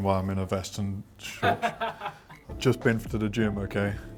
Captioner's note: laughing